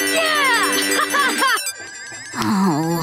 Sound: laughing

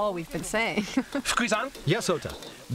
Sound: laughs

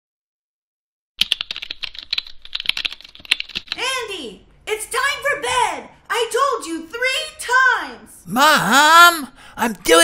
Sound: typing

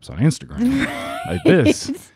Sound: laughing

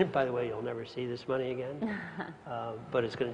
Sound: laugh

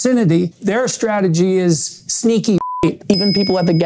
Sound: beep

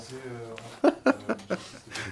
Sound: laughs

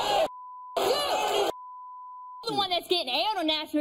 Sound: audience cheering

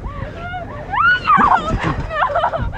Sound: Alexie screams

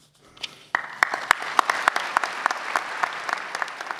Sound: audience applauds

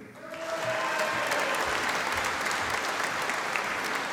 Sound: audience applauding

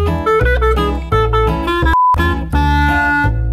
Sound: beep

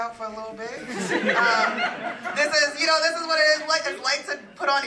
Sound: laugh

